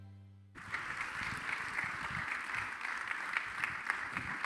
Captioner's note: audience applauding